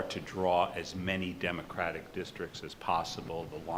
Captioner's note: none